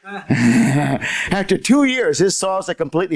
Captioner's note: laughter